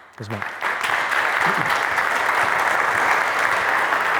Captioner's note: audience applauds